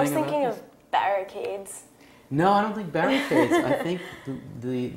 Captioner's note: laugh